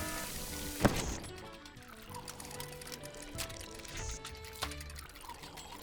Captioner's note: alarm blaring; cupcake popping